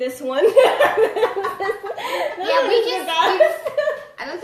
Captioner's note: laughs